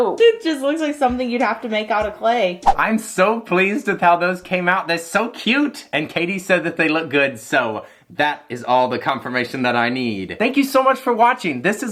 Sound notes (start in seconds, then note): 2.6 whoosh